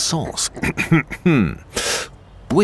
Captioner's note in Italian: coff coff